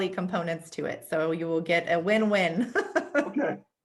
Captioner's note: laughs